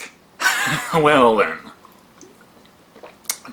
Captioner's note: smacks lips